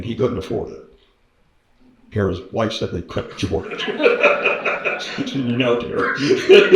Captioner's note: laughter